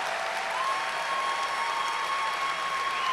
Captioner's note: cheers and applause